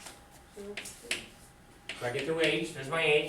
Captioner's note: student speaks softly